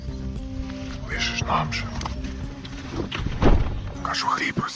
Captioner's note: sound of backpack dropped on the ground